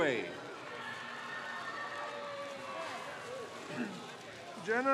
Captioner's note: crowd cheers